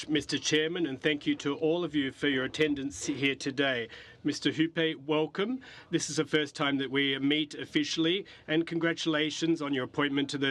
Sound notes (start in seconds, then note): 4.0 speaking French